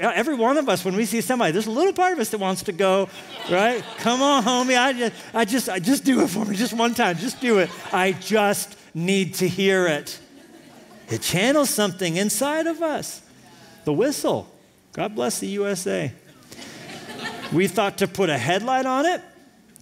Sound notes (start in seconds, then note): 4.8 laughter; 16.3 laughter